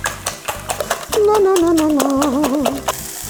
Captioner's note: hums